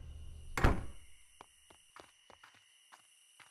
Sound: door slams

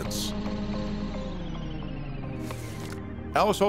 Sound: motor whirring

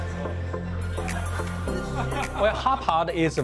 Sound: man laughs

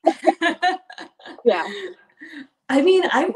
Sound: laughing

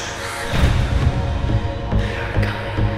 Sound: door slams shut

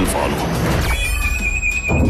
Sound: flight encountering strong turbulence

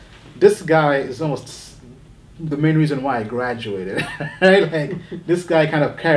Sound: laughs

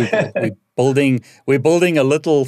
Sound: laughing

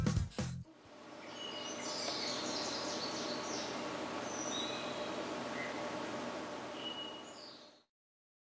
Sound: birds chirping

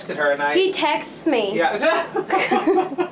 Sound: laughs

